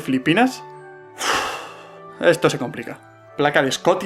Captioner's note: sigh